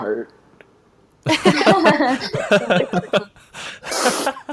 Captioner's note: everyone laughs